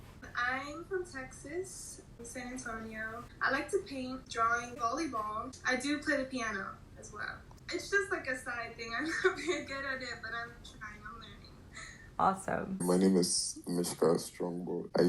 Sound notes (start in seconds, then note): 8.4 laughing